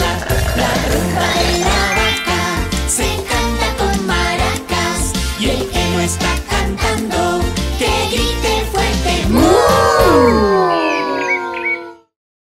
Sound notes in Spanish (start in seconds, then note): 10.8 Sonido de pajaritos